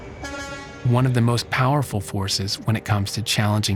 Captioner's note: truck horn honks